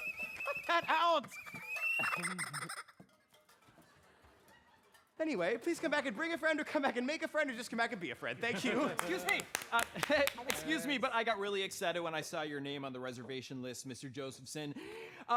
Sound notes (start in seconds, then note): 0.0 chuckles; 2.0 horn squeaking